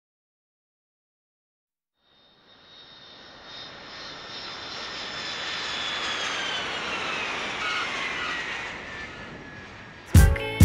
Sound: aircraft landing

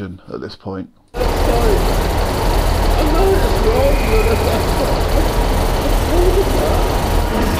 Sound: emotional incoherent ramblings

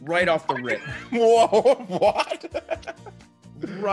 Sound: laugh

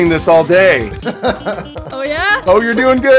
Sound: laughs

